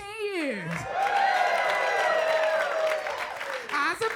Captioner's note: crowd cheers; crowd applauds